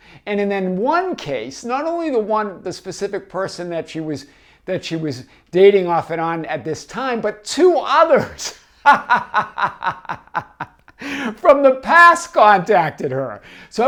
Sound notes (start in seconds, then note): 8.8 laughs